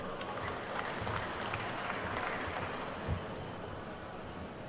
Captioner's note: attendees clapping